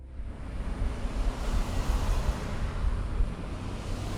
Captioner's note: cars zooming past